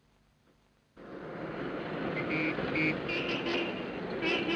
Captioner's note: horns honking